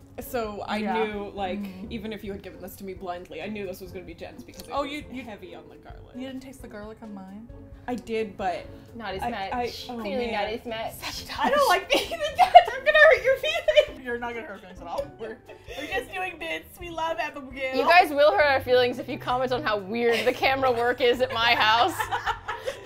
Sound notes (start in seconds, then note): 11.9 whispers; 13.9 laughing; 20.0 laugh